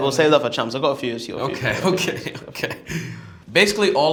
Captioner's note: chuckles